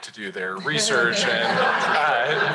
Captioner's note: laughter